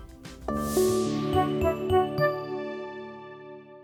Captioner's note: logo swoosh